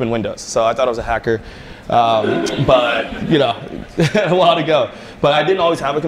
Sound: laughter

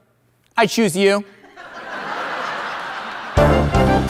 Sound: crowd laughing

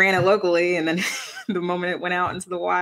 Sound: laughter

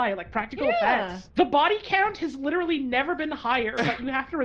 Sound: laughs

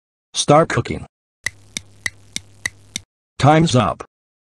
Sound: clock Ticking

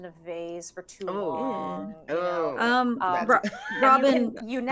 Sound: players gagging

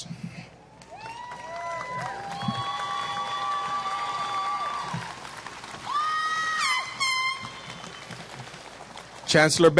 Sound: applause

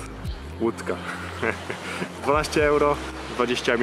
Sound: laughter

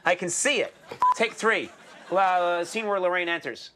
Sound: beep

